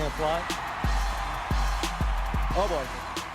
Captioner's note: applause